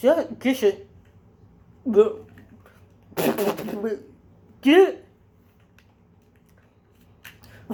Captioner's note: kisses, spits